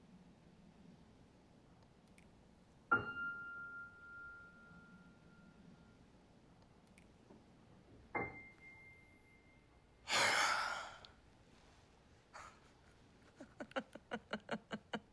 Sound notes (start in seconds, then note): 10.0 sighs; 13.2 laughs